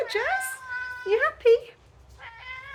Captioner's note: meow; meow